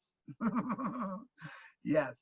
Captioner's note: laughing